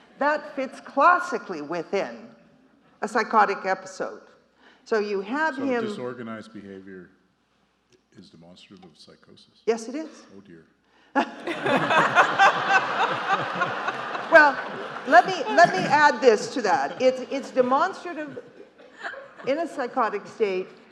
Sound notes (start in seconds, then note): 11.4 court and audience laughing